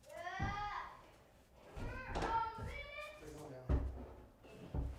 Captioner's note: kids yelling and chattering